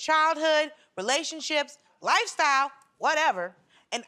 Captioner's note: none